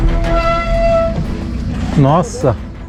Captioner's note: brakes screaming